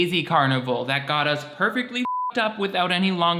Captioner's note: beep